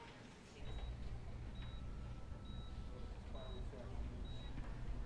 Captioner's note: monitor beeping